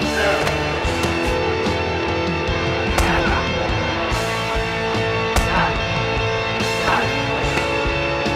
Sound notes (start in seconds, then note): 2.9 smashing cast on face